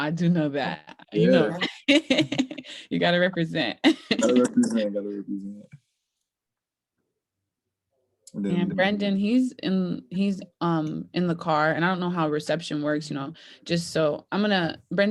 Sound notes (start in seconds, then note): 0.8 laughing